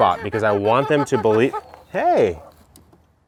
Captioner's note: chicken clucks